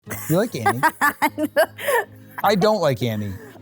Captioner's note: laughs